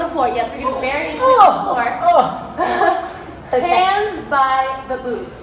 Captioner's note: laughs